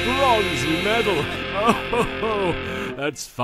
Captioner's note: Yami laughs